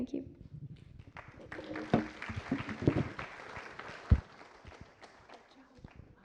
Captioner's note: applause